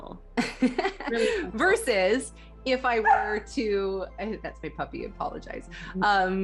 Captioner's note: dog bark